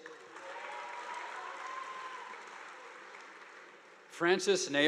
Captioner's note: audience applauding